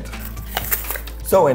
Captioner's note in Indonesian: Suara gigitan